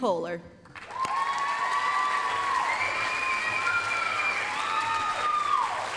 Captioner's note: applause, cheering